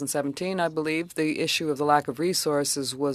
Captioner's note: speaking French